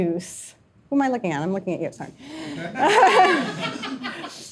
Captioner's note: laughs